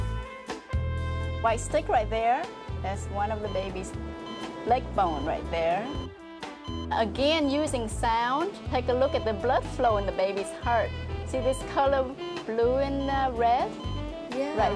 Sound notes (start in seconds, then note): none